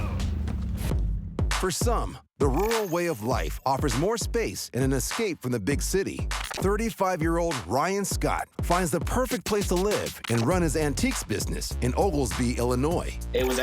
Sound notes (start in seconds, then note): 1.0 birds chirping; 1.0 upbeat music